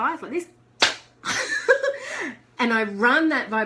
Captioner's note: hands smack; laughs